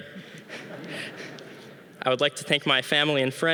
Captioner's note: audience laughing